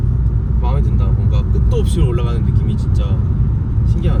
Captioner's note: engine speed